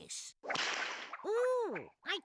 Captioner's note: whip cracking